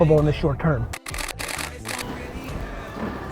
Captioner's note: camera shutter clicking